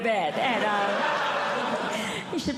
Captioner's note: audience Laughing